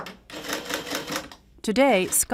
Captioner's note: calculator clicking